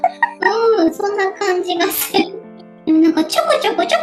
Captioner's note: laughs